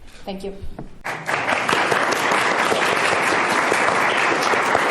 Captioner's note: applause